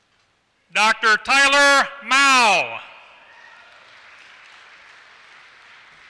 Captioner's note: applause